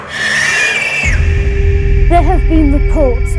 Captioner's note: screaming